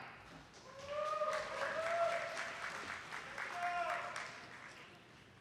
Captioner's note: attendees clapping